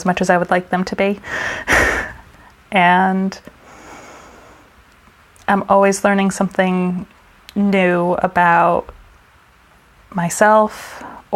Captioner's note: laughs